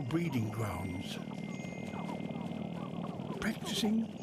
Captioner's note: rattling